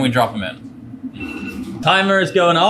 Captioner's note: timer going off